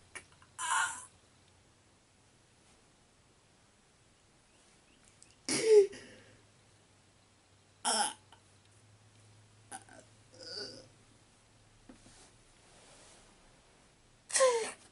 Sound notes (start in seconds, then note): 5.6 wincing